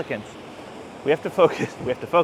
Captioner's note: laughs